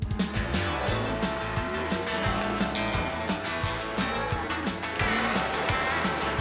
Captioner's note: mooing